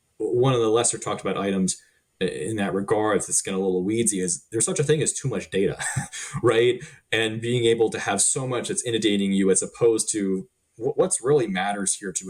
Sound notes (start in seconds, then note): 5.3 chuckling